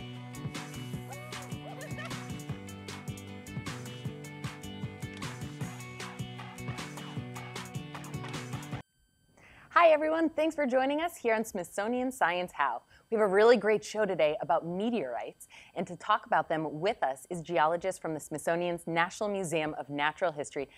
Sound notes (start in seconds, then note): 1.3 spraying; 4.2 laughs